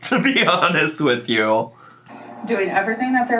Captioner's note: laughs